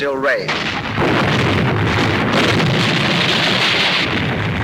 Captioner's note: bombs exploding